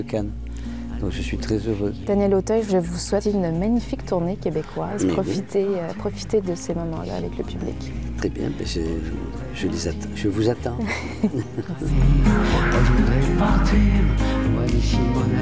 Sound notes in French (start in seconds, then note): 10.8 rires